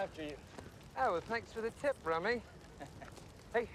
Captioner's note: Jason speaks in British accent